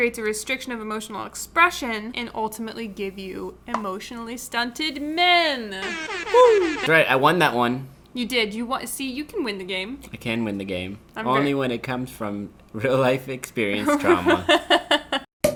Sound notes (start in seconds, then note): 5.8 buzzer buzzes; 13.9 laughing